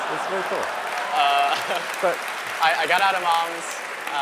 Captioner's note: applause